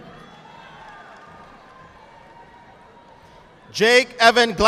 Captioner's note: audience applauding